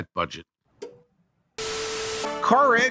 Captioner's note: TV static